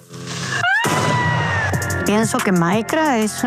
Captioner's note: screams